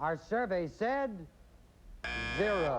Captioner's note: buzzer